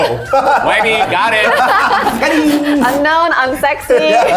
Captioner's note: all laughing